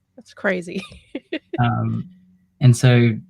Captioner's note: laughs